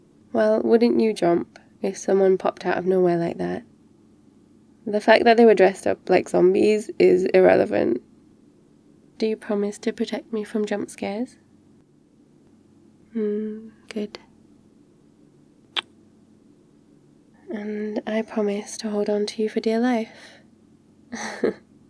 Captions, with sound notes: well, wouldn't you jump if someone popped out of nowhere like that the fact that they were dressed up like zombies is irrelevant do you promise to protect me from jumpscares? hmm, good *kiss* and I promise to hold on to you for dear life *laughs*